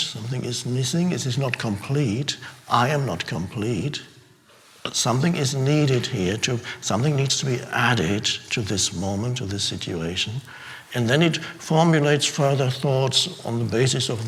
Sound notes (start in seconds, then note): none